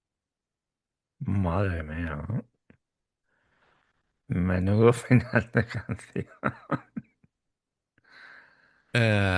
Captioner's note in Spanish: risas